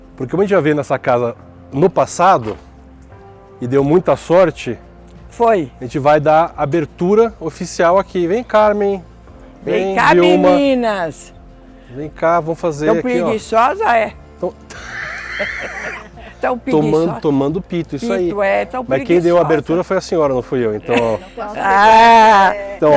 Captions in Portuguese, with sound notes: Porque como a gente já viu nessa casa no passado, e deu muita sorte. - A gente vai dar abertura oficial aqui. Vem, Carmen. Vem Vilma. - Vem cá, meninas. - Vem cá, vamos fazer aqui, ó. - Tão preguiçosas, é? (risos) - Tão preguiçosa. - Tomando pito, isso aí. - Tão preguiçosa. - Mas quem deu a abertura foi a senhora, não fui eu. Então, ó.